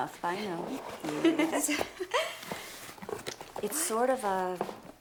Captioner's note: laughs